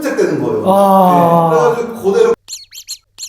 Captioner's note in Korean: 환호